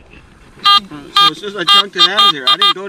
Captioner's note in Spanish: pitido